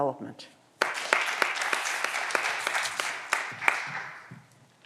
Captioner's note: audience applause